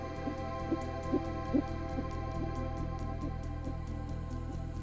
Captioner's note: heart beating on ultrasound